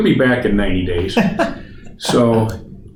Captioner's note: laughs